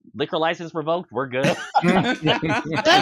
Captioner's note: laughter; yell-laughs